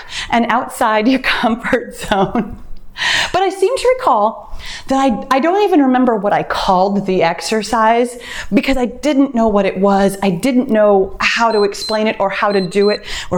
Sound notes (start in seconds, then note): 11.4 timer beeps